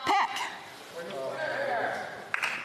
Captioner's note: speaking French